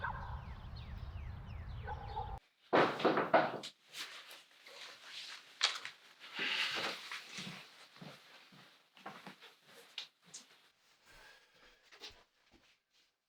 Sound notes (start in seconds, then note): 2.8 knock at the door